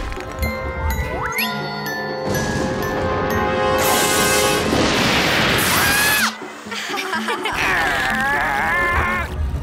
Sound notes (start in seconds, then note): 5.7 screaming; 6.7 laughing; 7.1 growling